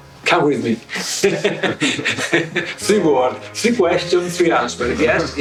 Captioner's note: laughs